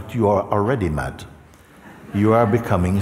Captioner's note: Lachen